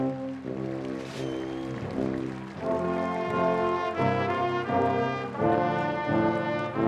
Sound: applause

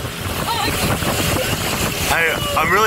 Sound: laughs

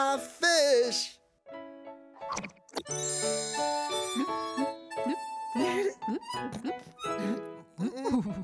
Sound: bloop, bloop, bloop

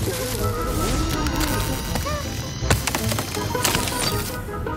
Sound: screaming; knocks

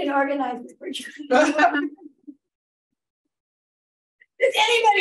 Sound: laughing

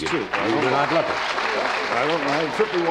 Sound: audience applause

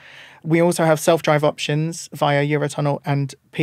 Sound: none

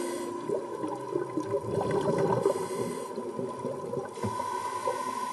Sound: ventilator breathing

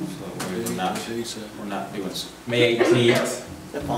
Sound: murmurs

